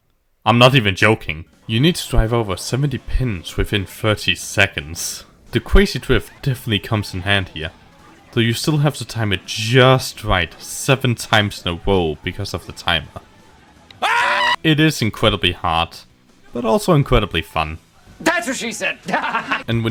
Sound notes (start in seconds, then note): 13.9 Markiplier screams